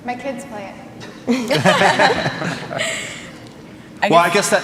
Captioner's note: laughing